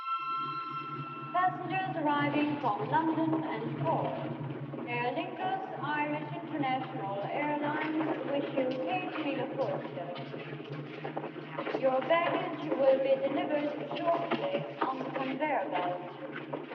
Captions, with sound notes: - [Woman Over PA] Passengers arriving from London and port. Aer Lingus Irish International Airlines wish you, (speaking foreign language) Your baggage will be delivered shortly on the conveyor belt.